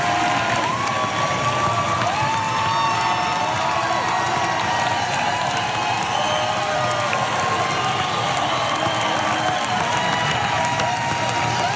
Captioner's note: applause